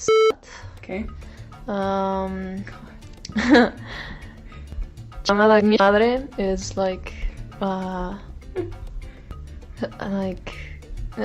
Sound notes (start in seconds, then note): 0.0 beep; 6.0 speaking Spanish